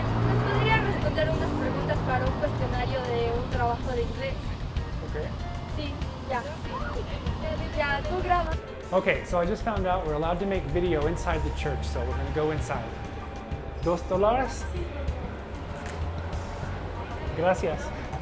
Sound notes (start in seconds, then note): 0.0 spanish; 6.0 Spanish; 6.9 excited chatter; 13.8 Spanish